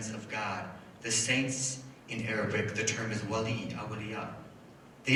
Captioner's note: foreign language